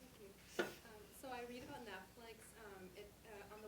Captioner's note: voiceover